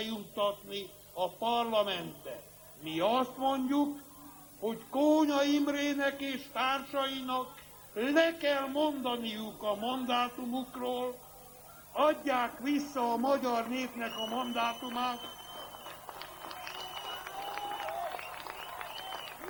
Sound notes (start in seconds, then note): 12.9 applause